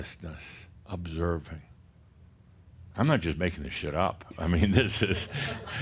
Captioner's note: some chuckles